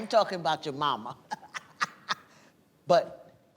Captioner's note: laughs